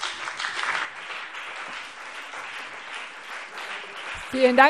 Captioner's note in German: Beifall BÜNDNIS 90/DIE GRÜNEN und CDU